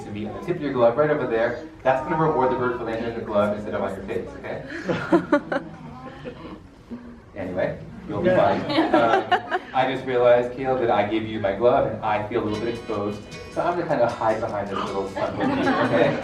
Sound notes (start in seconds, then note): 4.7 audience laughs; 8.5 laughs; 15.3 speaks faintly